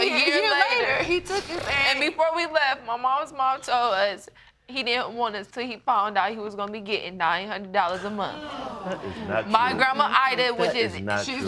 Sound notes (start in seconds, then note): 8.0 audience gasps